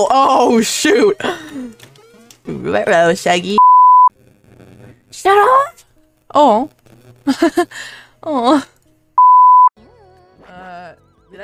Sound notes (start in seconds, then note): 3.6 mic static; 7.3 laughing